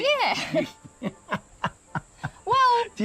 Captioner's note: laughs